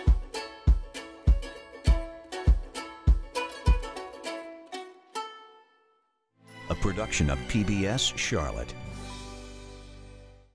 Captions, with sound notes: - [Male Voice] A production of PBS Charlotte.